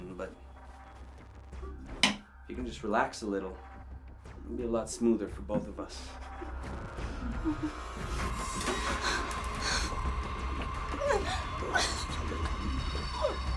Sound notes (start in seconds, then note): 7.5 dramatic music; 10.8 Kathy whimpering